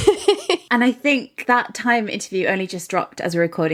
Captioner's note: laughing